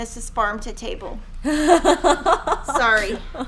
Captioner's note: laughing